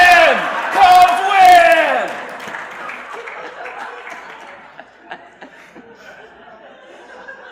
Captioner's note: shouting; cheering/applause